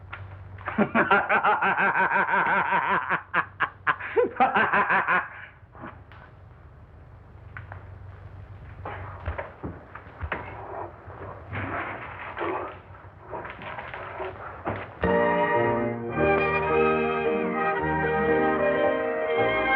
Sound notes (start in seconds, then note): 0.6 he Just Keeps Laughing Maniacally